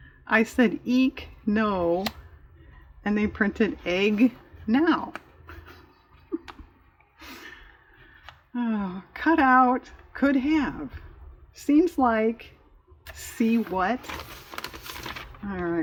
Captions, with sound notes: i said "eek no," and they printed "egg now" (sighs) "cut out," "could have" "seems like," "see what" all right